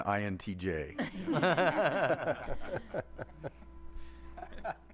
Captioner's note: gentle laughter